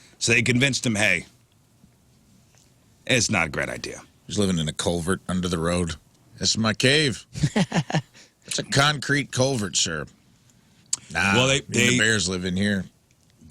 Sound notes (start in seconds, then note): 7.3 laughing